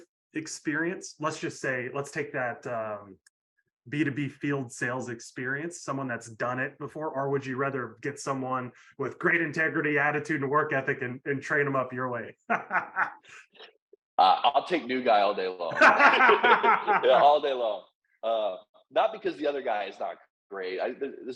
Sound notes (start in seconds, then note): 12.4 laughing; 15.6 laughing